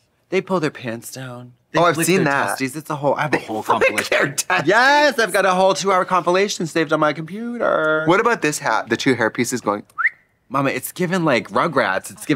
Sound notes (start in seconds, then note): 9.9 whistling